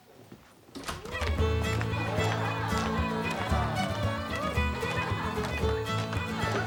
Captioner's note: students cheering; lively dance music